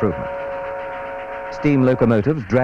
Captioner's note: steam train horn